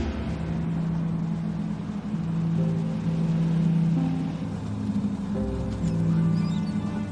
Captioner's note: dramatic music; engines roaring